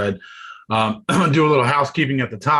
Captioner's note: coughs